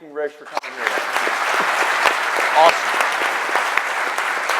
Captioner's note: audience clapping